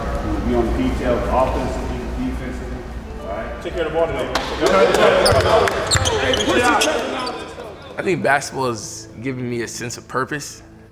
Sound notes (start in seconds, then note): 4.0 group cheering